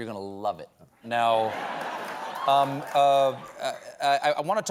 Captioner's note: laughter